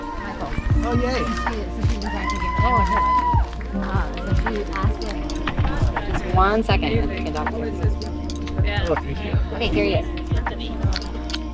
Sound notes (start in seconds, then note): 2.0 both chattering; 2.0 people cheering